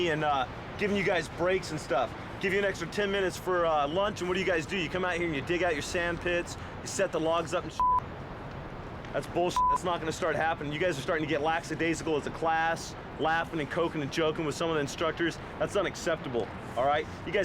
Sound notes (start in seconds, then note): 9.5 beep